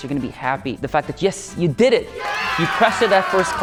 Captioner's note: cheering